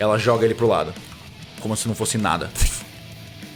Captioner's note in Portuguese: pft